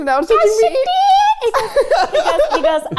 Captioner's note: laughs